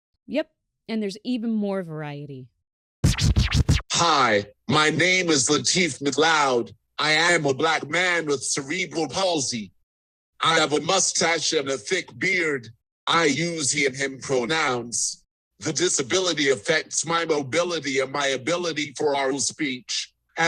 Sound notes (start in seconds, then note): 3.0 old-school record scratch; 3.9 speaking via AAC